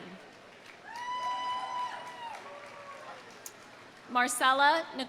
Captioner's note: audience applauding; audience cheering